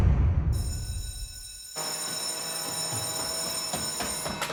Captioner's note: school bell ringing